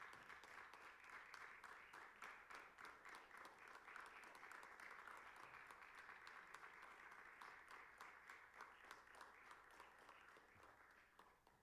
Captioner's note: applause